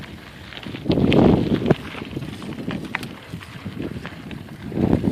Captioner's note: pedalling noise and gravel crunching